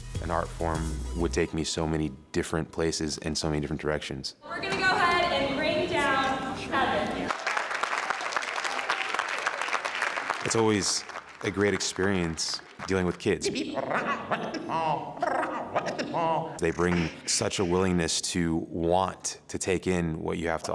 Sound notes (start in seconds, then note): 6.8 audience applauds; 13.1 beat boxing